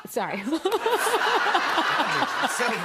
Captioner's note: laughter